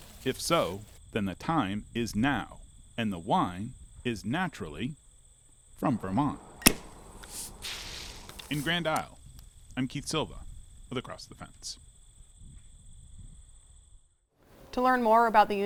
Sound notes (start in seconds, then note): 5.8 wine sizzling; 6.6 wine cap explodes; 11.8 birds rattling